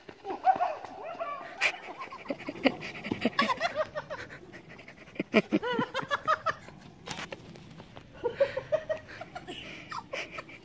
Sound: laughter

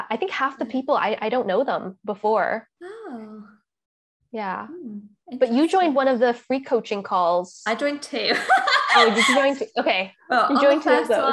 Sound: laughs

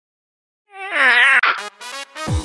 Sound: concerned meows

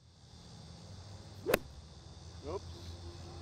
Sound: club swings

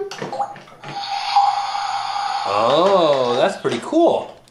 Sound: water squirting

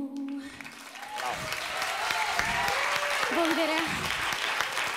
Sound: applause

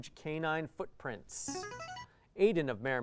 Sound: player buzzer

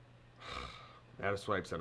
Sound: sighing loudly

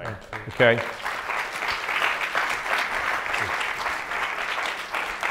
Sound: audience applauds

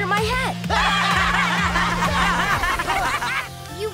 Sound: laughing

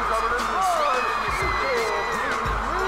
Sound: cheering

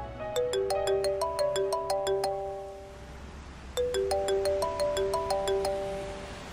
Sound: mobile phone ring

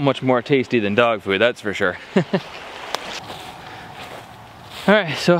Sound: laughs

